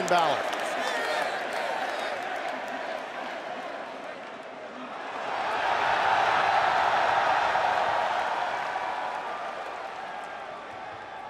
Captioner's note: crowd cheering